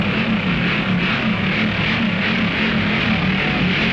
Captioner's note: hot rods revving